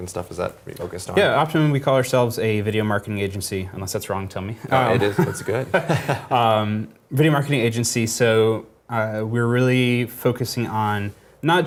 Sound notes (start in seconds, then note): 4.7 laugh